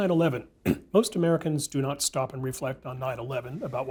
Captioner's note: cough